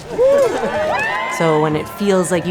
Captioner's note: everyone cheers